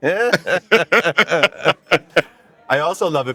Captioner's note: both joyfully laughing